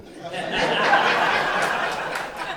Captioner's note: crowd laughter